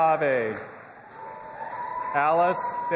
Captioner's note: audience applauding and cheering